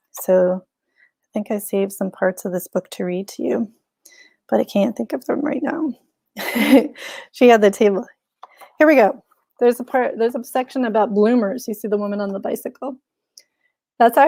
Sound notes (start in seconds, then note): 6.4 chuckles